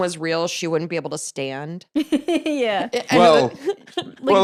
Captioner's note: laughs